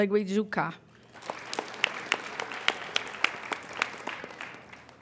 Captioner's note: applauding